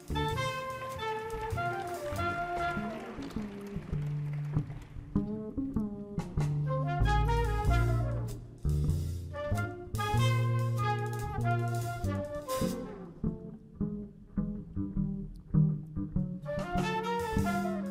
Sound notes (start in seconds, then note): 0.4 audience applauding